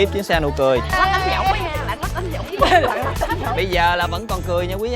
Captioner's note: happily chattering